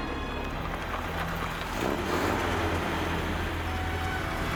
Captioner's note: jeep rumbling